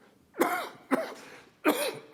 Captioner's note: coughs